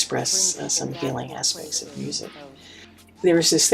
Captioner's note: speaking faintly in group meeting